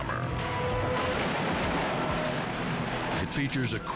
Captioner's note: car crashing